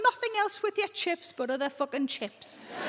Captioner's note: crowd laughs